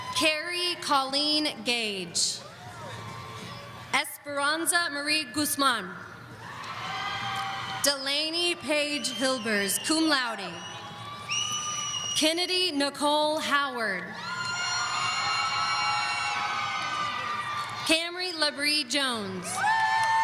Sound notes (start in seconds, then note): 14.1 audience cheering